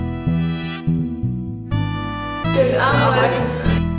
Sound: laughs

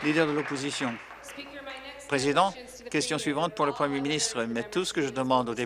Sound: applause

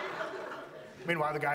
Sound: audience laughs

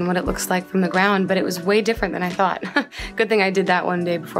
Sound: chuckles

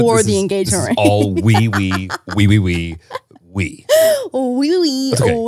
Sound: laughing

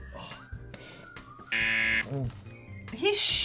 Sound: buzzer

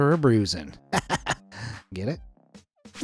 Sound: narrator laughing

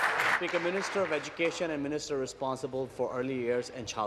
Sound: applause

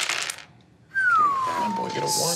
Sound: dice rattling and tapping table

